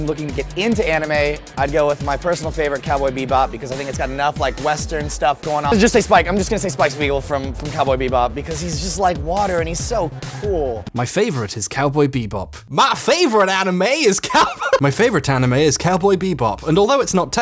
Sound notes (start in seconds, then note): 12.6 mimics southern accent; 14.2 laughs